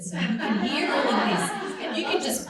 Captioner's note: crowd laughs